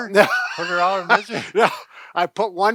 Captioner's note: laughter